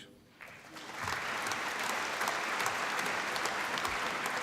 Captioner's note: applause